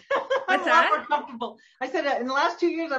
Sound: laughs

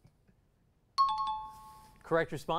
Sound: timer bell

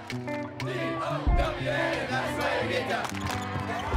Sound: crowd chanting; whistle

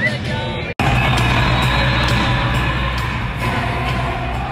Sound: crowd chanting

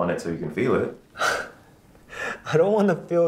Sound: laughs

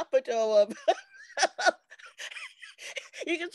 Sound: laughter

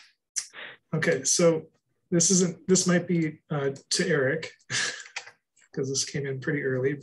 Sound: chuckles

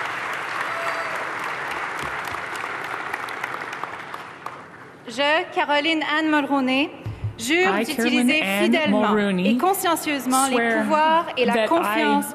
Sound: cheers and applause

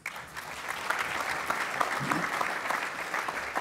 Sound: applause

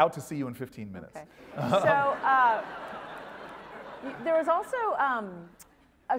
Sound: laugh

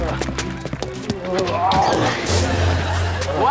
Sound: groaning

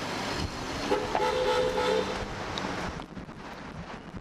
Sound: car horn beeps

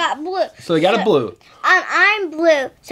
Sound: voiceover

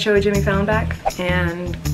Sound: whooshing

